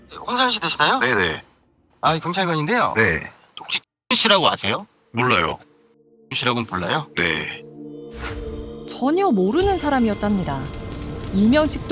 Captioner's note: voiceover